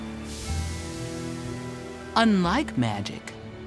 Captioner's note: geyser gushes